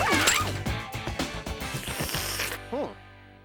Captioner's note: slurping